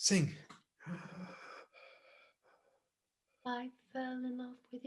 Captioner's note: breathing deeply